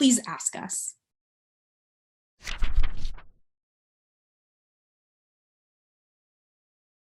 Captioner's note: fluttering Pages